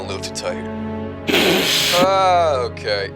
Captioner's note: ungodly helmet sneeze